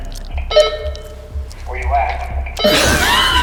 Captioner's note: on walkie-talkie; laughter